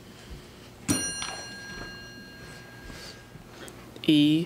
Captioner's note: ding